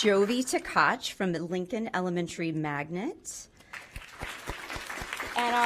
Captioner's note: applause